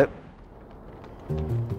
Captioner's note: faint running